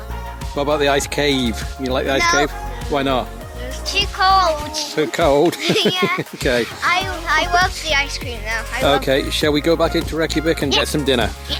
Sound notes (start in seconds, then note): 3.5 laughing